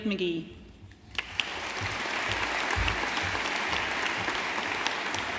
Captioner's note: audience applauding